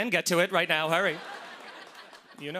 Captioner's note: laughter